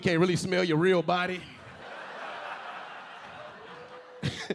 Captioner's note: audience laughing; LilRel laughing